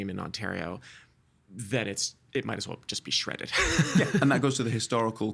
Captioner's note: laughing